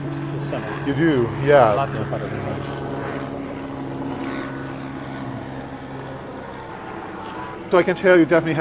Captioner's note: airplane Noises